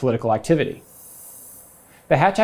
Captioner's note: graphics whooshing